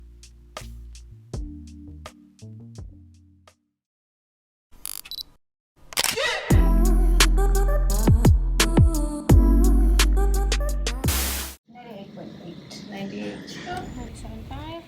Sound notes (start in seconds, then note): 1.3 soft upbeat music; 5.9 camera shutter clicks; 6.5 upbeat bass music